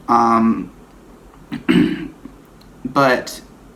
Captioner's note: clears throat